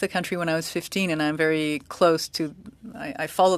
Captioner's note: speaking French